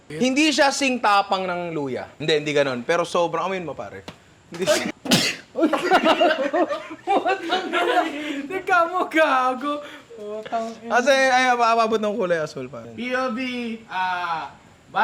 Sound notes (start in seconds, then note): 4.6 spits; 5.5 laughter